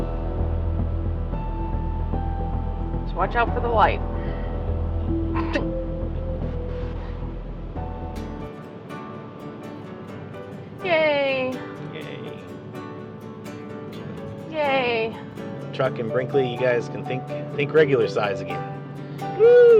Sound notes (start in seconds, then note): 5.3 nervious laugh